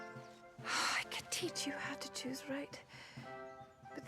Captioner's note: sighs